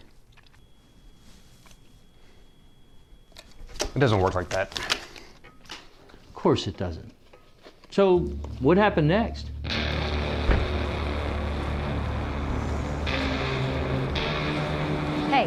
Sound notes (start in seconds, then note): 0.1 silence; 3.1 card flipping